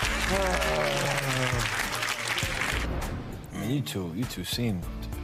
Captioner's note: audience applauding